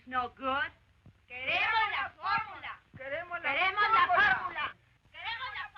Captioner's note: women chanting slogan in Spanish